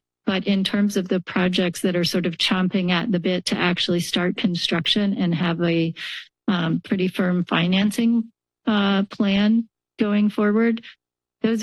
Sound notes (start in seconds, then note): none